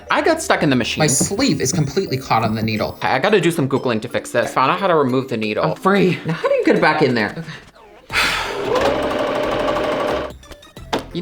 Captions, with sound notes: I got stuck in the machine. My sleeve is completely caught on the needle. Okay, I gotta do some googling to fix this. I found out how to remove the needle. I'm free! Now how do you get back in there? Ok. (sigh) (machine whirring)